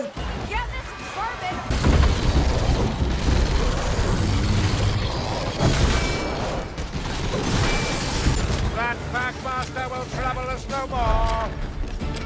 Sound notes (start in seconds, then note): 1.5 growling of enemies and clangs of melee strikes